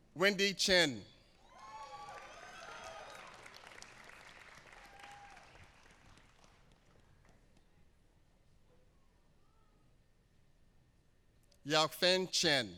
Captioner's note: applause